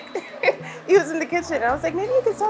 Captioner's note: laughs